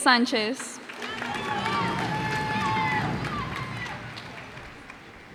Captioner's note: cheers and applause